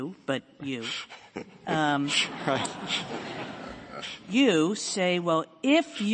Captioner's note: laughter